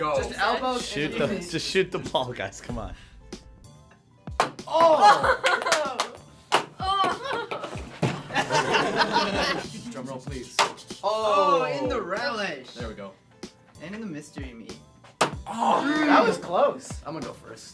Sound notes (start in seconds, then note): 4.8 laughter